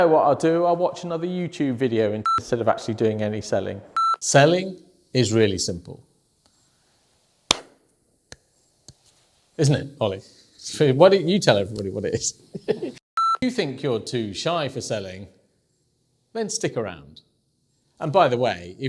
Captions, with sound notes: - Oh I know what I'll do, I'll watch another YouTube video instead of actually doing any selling. (beeping) Selling is really simple. (claps) Isn't it Olly? Why don't you tell everybody what it is. (beeping) If you think you're too shy for selling, then stick around, and by the way,